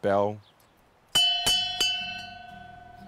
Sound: ringing

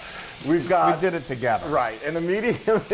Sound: laugh

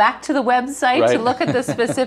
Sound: laughs

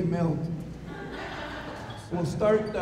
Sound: audience laughs

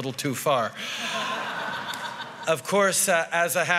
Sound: laughter

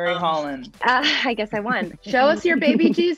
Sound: laughing

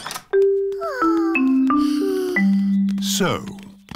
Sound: peppa and george sigh

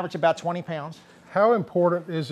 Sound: none

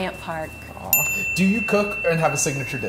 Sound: bell dinging

